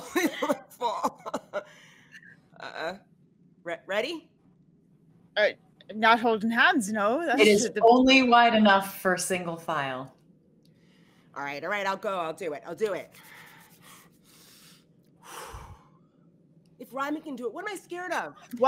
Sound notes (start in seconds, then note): 0.0 laughs; 15.2 exhales